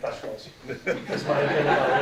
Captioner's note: audience laughing